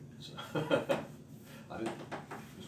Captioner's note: laughs